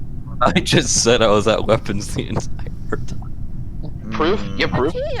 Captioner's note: laughing